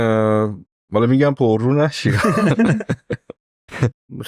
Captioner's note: laughs